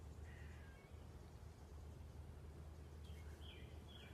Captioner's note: birds chirping